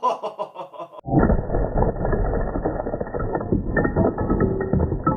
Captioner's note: ice breaking